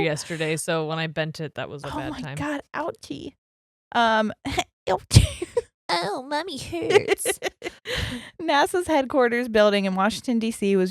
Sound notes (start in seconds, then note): 4.2 chuckles; 5.4 speaking baby voice; 6.6 laughing